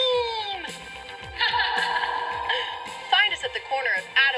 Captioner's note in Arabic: يضحك